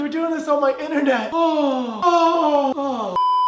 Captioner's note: breathing out; beeeeeeeeeeeep